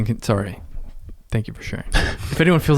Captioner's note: chuckles